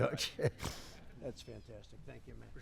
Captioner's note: laughter